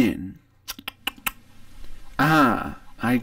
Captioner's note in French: fait claquer ses lèvres